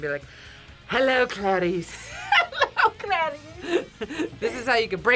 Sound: laughs

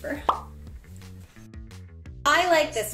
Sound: pop up sound

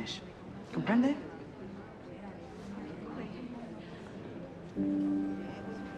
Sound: speaking foreign language

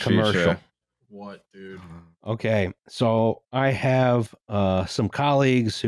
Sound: flatly

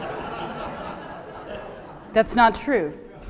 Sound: crowd laughs

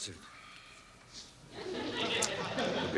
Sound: audience laughing

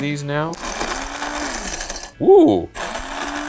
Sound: machine whirring

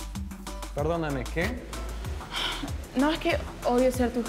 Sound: speaks Spanish

